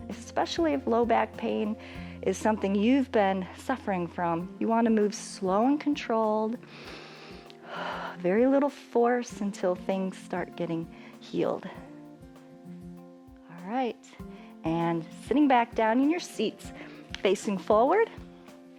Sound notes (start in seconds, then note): 6.6 inhales and exhales